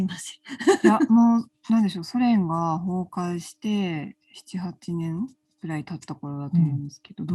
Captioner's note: laughs